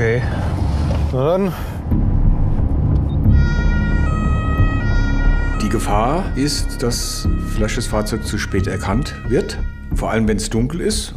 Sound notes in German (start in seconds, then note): 3.2 Bedrohliche Töne, Einsatzsirene